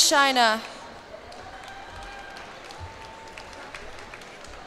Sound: cheers and applause

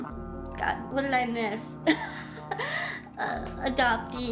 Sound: laughing

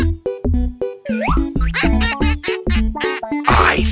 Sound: quacks happily

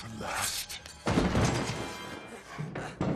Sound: crashing

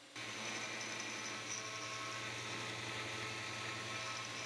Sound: pantograph whirring

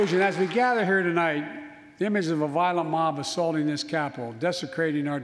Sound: applause

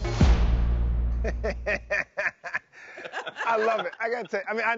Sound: laughs

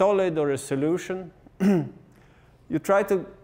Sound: cough

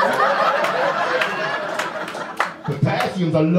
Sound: audience laughs

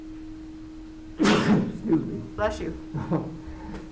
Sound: sneezes; chuckling

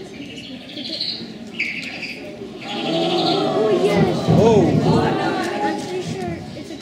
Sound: audience oohing and aahing

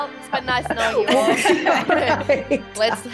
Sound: laugh

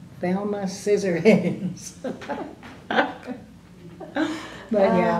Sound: laughter

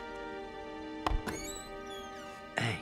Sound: knocking

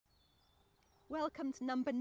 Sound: birds chirping

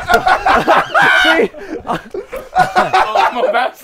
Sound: people laughing

